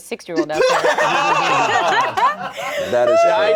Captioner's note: everyone laughing